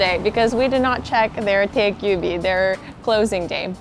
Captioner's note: speaks in foreign language